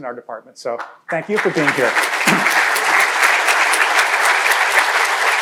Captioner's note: crowd applauding